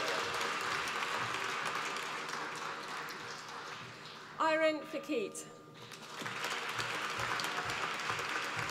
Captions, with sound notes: Iren Fekete, (APPLAUSE)